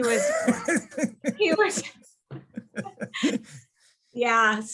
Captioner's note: both laughing